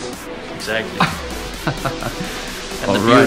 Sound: laughs

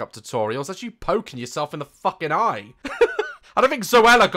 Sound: laughs

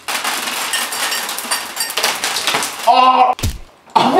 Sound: candy clattering

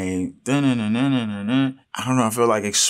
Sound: mimics electric guitar

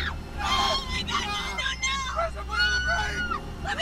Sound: screams

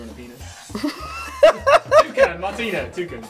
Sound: laughs

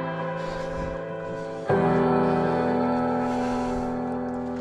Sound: breathing heavily

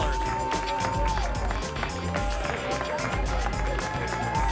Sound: applause and cheering cont

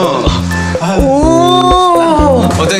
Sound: argh!

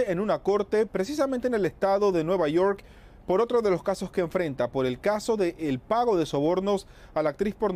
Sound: HABLA EN INGLéS

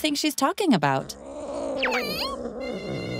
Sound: growling

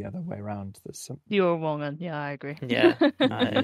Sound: laughing

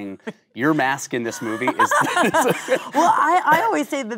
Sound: Kate laughing

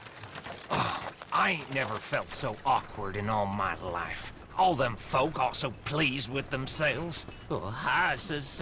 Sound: grunts

